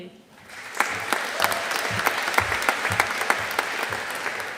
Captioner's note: audience applauding